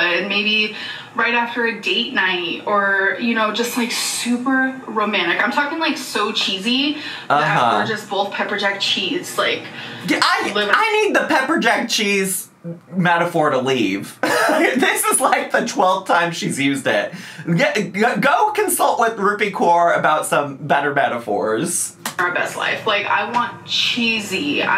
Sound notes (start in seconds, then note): 14.2 chuckles